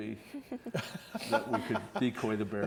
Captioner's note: laughing